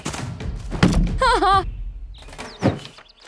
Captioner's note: Anastasia laughs